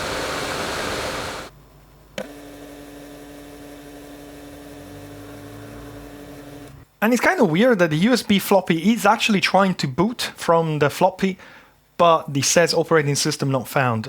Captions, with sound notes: (buzzing) And it's kind of weird that the USB floppy is actually trying to boot from the floppy but the SES operating system not found.